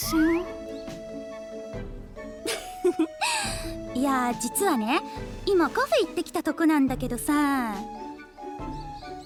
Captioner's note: laugh